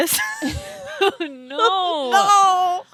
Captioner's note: girls giggling